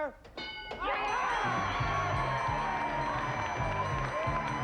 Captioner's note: overlapping chatter